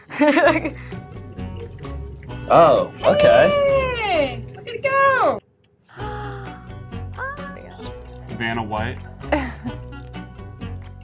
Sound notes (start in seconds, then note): 0.0 laughs; 5.9 gasps